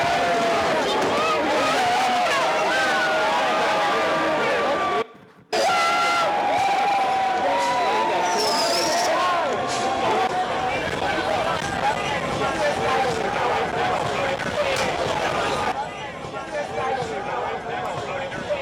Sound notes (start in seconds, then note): 3.6 shouting